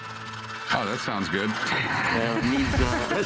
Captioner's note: laughs